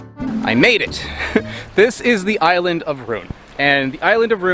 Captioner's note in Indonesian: tertawa